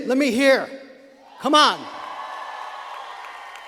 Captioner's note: students applauding